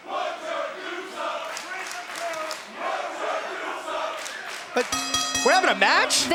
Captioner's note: crowd cheering